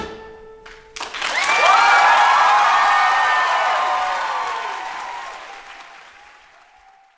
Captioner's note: cheering and applause